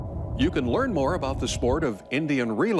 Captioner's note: voiceover